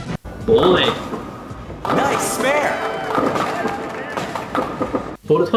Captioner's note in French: bruits de quilles qui tombent